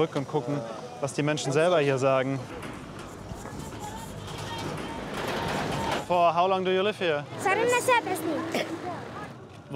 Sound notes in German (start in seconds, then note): 2.3 Ferne Stimmen, fernes Rumpeln; 5.4 englisch